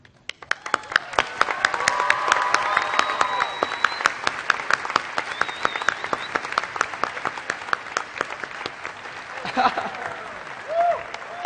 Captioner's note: cheering and Applause